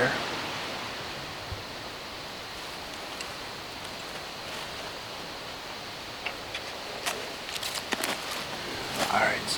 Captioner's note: wind